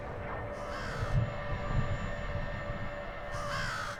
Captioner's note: crow cawing